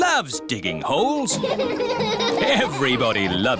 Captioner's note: all laughing